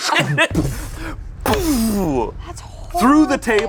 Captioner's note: both mimic smacks